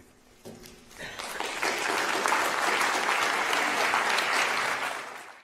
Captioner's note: applause